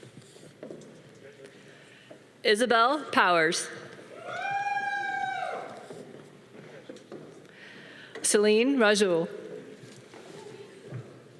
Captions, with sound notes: - Congratulations. - Isabelle Powers. (audience applause) Celine Rajul.